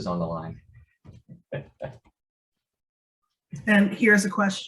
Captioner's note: laughs